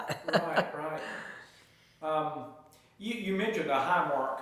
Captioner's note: chuckles